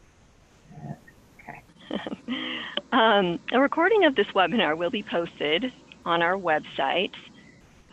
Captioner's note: laughs